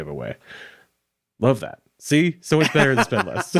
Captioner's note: laughing; chuckles